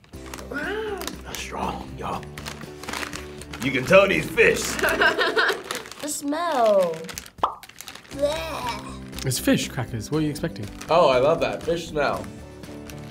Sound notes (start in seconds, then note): 4.5 laughs